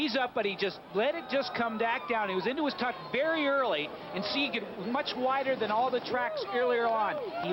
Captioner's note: cheering